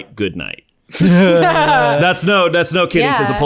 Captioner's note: laughter